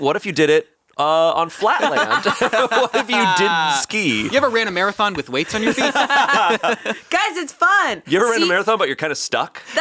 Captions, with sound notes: What if you did it on flat land? (laughs) What if you didn't ski? - You ever ran a marathon with weights on your feet? (all laughing) - Guys, it's fun. - You ever run a marathon but you're kind of stuck?